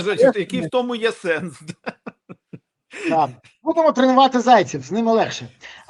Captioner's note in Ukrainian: сміх